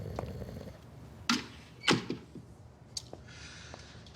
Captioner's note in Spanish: Sonido al cerrar la puerta